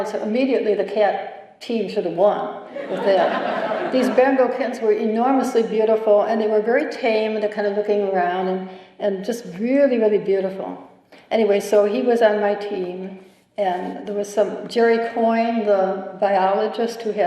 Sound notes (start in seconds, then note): 2.7 laughter